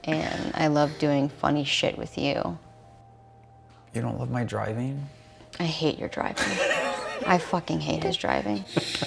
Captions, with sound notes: And I love doing funny shit with you. - You don't love my driving. - I hate your driving. (both laughing) I fucking hate his driving.